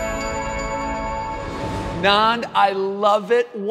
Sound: bright music; air swooshing

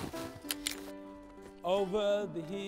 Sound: poles clatter

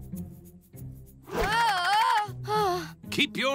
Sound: groaning

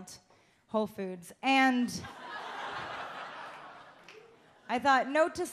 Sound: audience laughs

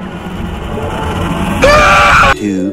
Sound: scream

